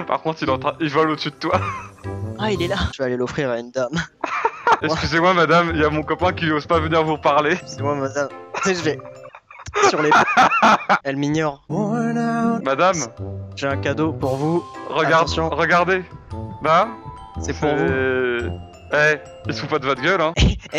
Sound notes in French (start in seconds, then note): 10.2 rires; 11.8 musique triste